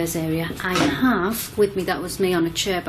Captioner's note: banging sound